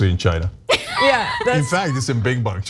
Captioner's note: laugh